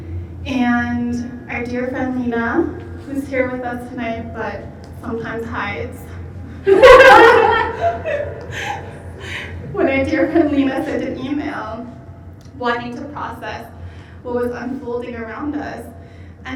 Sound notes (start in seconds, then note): 6.6 laughing